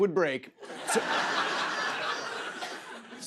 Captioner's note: laughter